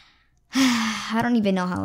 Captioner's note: long sigh